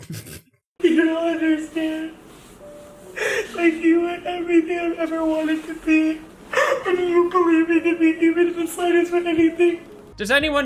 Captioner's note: incoherent, ugly sobbing